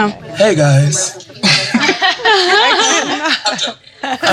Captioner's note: laughter